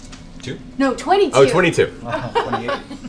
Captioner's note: laughs